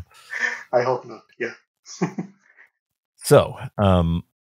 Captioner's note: chuckles